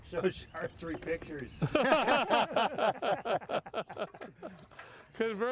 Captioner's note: men laughing